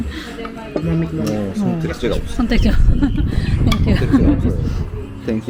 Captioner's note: laughs